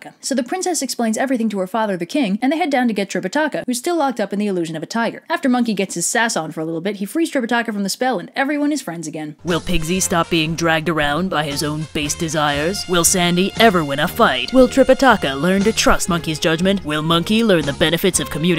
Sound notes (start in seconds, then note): 9.3 Dramatic voice